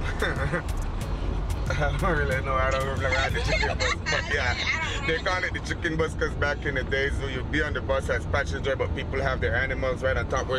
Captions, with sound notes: [LAUGHTER] I don't really know I don't really ride the chicken bus, but yeah. They call it the chicken bus, because back in the days, you'll be on the bus as passenger, but people have their animals right on top,